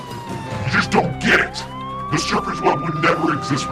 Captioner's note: sirens blaring